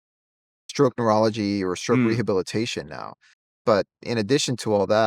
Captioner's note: hums